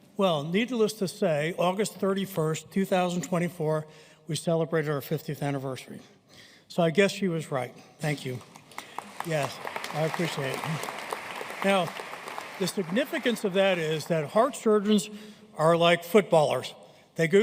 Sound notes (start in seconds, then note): 8.3 audience applauding